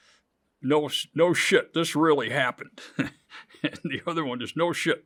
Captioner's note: laughs